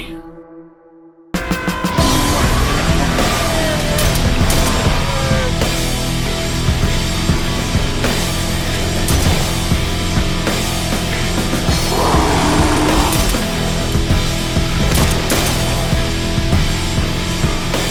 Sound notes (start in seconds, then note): 1.5 dark rock music; 4.3 gunshot fires; 11.8 beast roaring; 15.1 gunshot firing